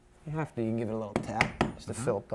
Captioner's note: hammer tapping